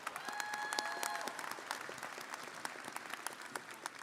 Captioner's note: audience applauding